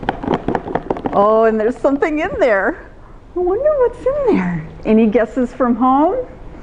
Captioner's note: shaking noise